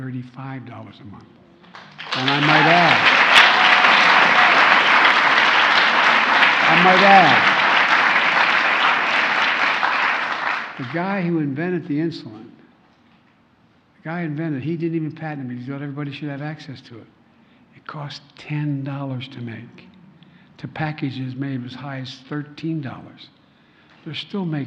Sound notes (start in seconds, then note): 7.8 applause